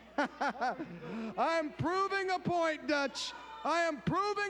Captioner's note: laughing